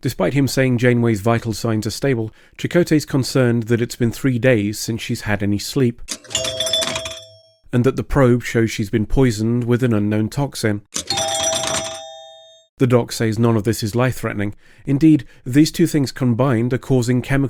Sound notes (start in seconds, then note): 6.1 minor pinball machine dinging; 11.0 major pinball machine dinging